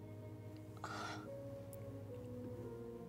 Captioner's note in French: soupire